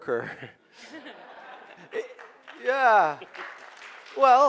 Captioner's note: clapping